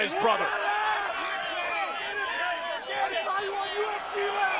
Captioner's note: audience shouting